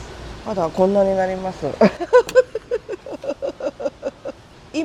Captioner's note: laugh